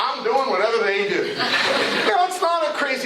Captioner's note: laughter